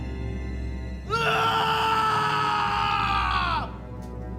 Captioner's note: Antony roars